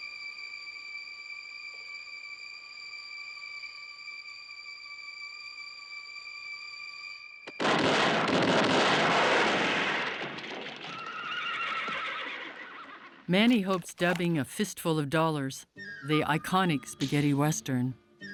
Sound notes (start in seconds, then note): 7.6 firing; 10.9 horse whinnying